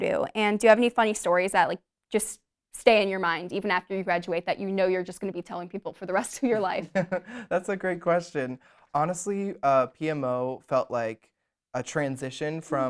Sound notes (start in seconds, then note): 6.5 laughs